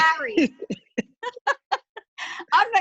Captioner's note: laughing